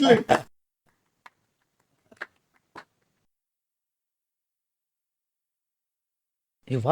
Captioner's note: laughs; claps